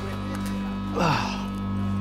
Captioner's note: spits